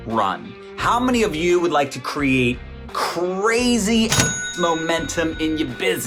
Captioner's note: dings